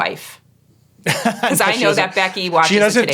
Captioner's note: laughing